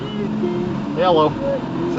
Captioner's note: engine revving